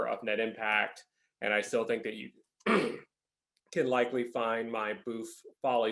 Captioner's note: clears throat